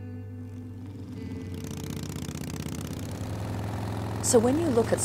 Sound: motorcycle engines

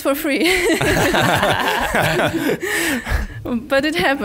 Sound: laughing

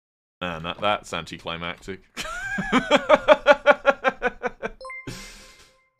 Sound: laughs

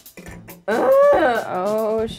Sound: groan

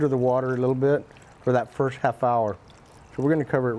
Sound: water sloshing

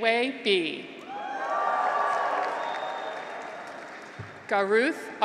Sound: graduates cheer

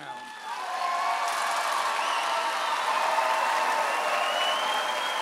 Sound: audience cheers and applauds

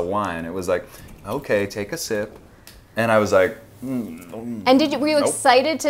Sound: grumble

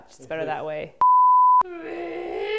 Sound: beep

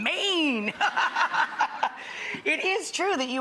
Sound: laughing

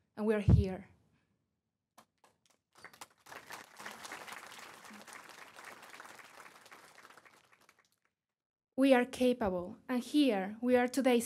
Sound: applause

